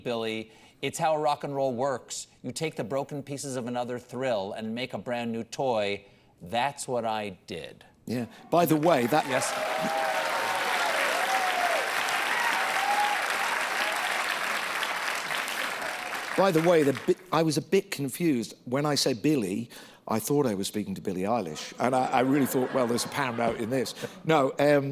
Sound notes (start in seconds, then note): 8.6 applause